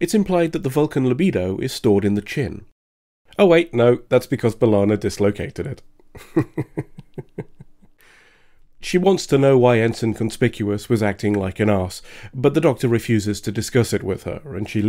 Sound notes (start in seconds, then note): 6.2 laughs